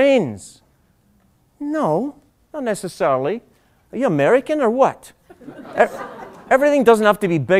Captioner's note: laughter